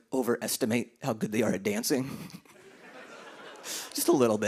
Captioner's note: laughter